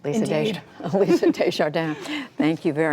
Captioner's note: laughter